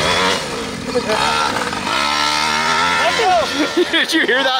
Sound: laughs

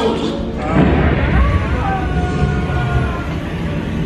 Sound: burners roar

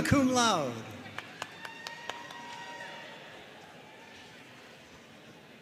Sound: audience cheering and applauding

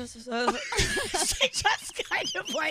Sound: laughing

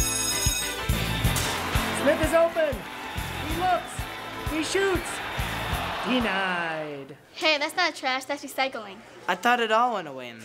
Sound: bell rings

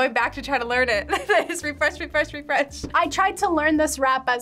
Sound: laughs

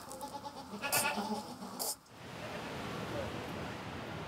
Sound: goat sounds

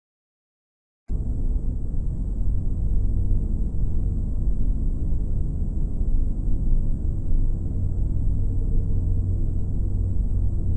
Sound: dark hum

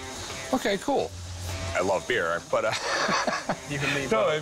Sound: laughs

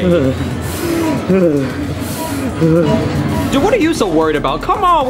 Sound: Luigi heavily panting

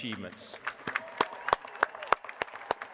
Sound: applause

